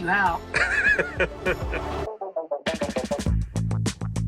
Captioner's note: laughing; upbeat music